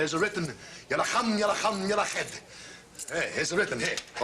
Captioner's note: speaking fake Arabic